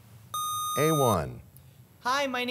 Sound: sound of a buzzer

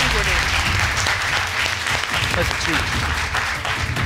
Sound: audience applauding

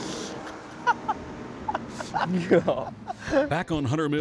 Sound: laughter

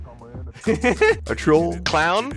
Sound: laughs

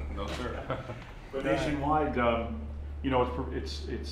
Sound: laughter

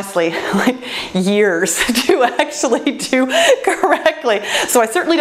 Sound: laughs joyfully

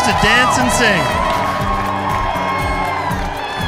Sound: cheering

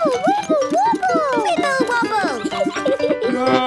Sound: giggles

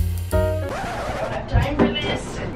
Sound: laid-back jazz music; record scratches

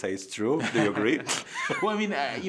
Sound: laughing

